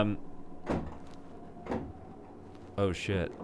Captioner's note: clanking